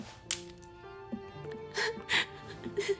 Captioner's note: sobbing